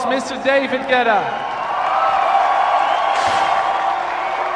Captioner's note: crowd cheers